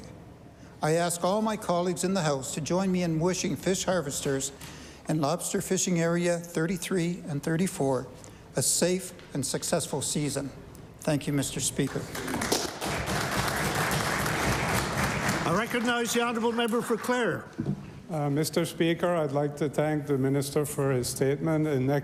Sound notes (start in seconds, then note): 14.6 applause